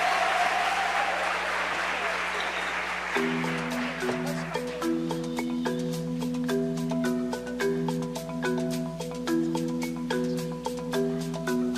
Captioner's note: cheers and applause